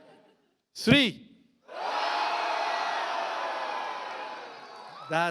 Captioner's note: audience laughs; audience screams